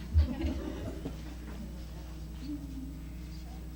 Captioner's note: light laughing